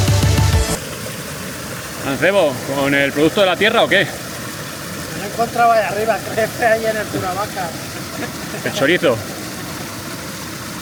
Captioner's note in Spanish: risas